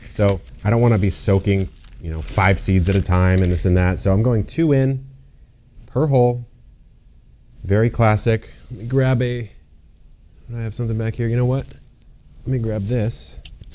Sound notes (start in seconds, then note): none